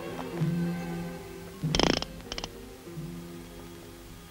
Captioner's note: dramatic music; gun clicking; dramatic music